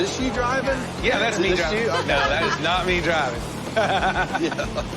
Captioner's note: laughs